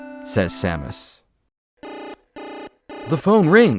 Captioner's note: ring ring ring!